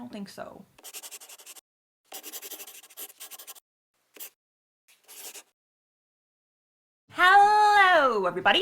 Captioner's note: the sound of a pen scratching